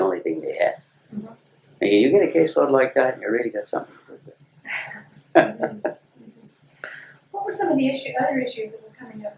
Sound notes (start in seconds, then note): 5.3 laughter